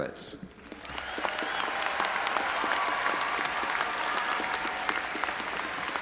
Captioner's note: audience cheering and applauding